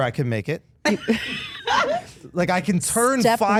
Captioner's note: Steph laughing